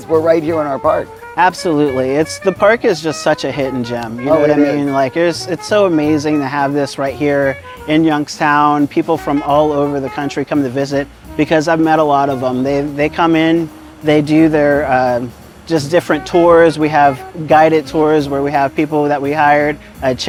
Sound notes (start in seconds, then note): 1.5 pat